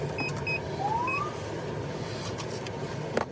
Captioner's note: siren chirps